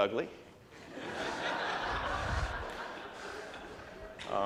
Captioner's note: audience laughs hard